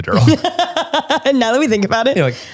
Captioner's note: laughs